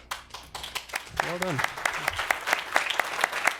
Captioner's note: applause